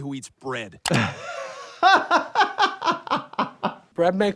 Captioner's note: laughs